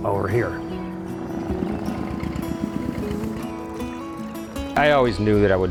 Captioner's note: tractor engine running and acoustic guitar playing